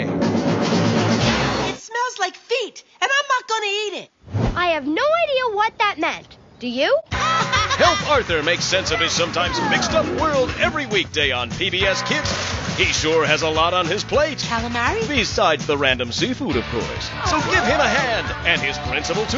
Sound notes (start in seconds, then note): 7.1 both laughing